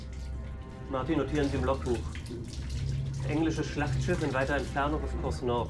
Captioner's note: speaking in foreign language